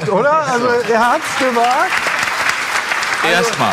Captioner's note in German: Applaus